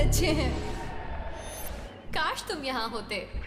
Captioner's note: cheering